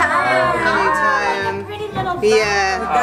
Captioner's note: excited reactions